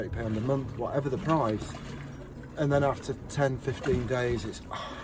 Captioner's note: sigh